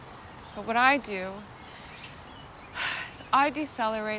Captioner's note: sighs